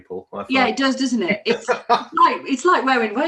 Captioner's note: laughs